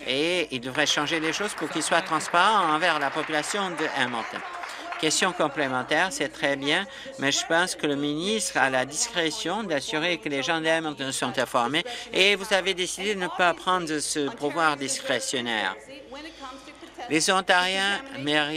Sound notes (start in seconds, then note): 5.1 applause